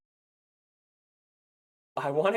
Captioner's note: silence